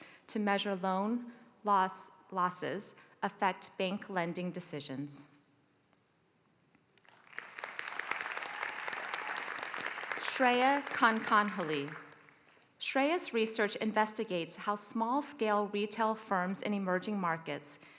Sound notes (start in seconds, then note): 7.0 applause